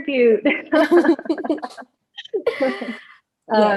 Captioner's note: laughs; laughter